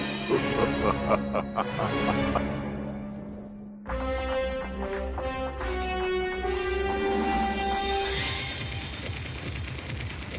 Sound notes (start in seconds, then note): 0.2 chuckling